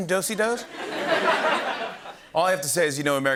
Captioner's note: laughter